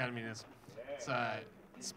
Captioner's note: audience member cheers